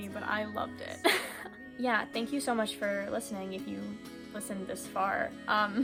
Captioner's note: laughs